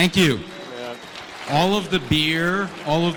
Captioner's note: applause